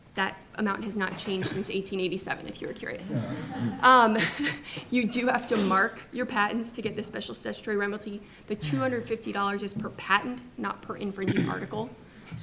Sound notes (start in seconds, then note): 3.0 laughs